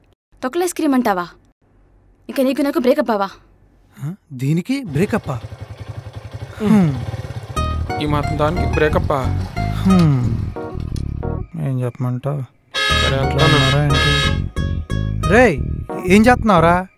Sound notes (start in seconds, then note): 9.7 Nandan sighs; 12.7 Balu honking